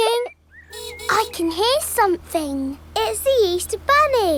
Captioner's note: giggling; car horn honking